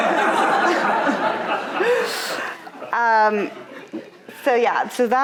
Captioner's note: audience laughing